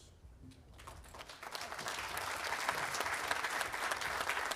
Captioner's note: audience applauding